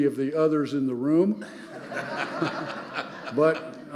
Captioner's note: audience laughing